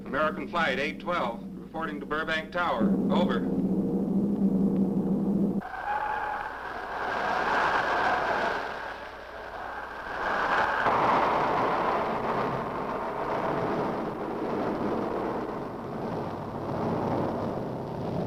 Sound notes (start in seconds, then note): 3.9 engine rumbling; 5.9 wind whistling